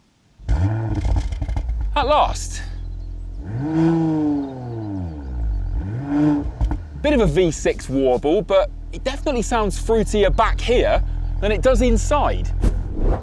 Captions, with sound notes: (ENGINE STARTS) At last. (CAR REVS GENTLY) A bit of a V6 warble, but it definitely sounds fruitier back here than it does inside.